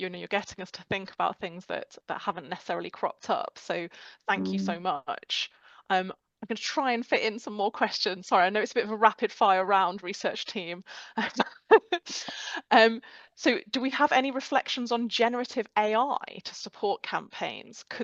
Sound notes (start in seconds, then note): 11.3 laughing